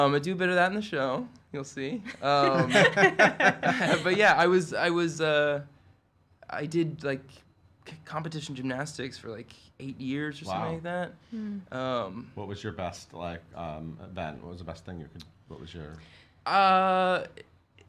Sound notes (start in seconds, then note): 2.3 all laugh